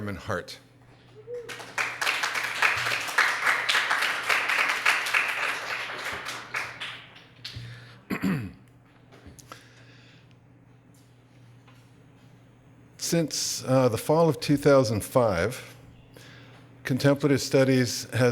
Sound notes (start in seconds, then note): 1.4 applause